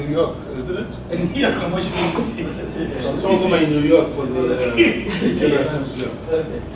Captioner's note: laugh